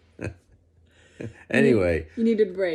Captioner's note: laugh